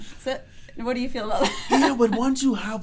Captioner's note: laughs